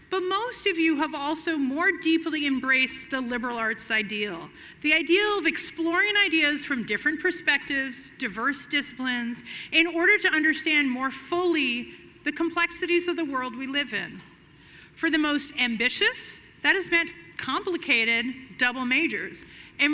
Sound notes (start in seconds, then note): none